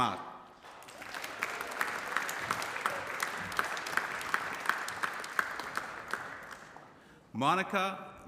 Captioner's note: applause